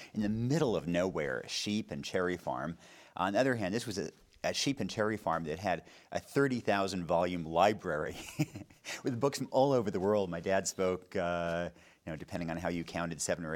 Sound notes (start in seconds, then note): 8.0 chuckling